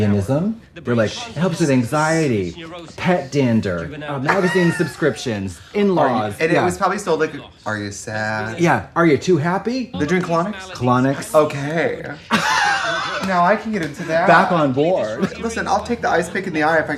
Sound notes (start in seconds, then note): 12.1 Katya laughs